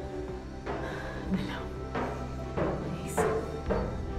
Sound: whispers

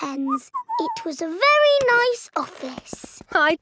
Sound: whistles

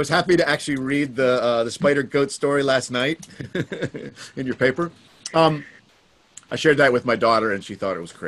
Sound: chuckles

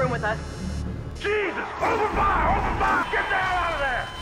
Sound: gunfire

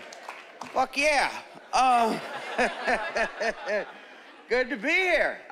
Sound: chuckling

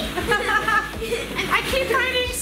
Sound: laughter

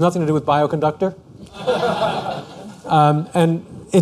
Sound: laughter

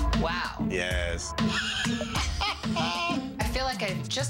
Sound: laughing

